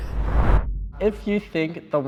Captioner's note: woosh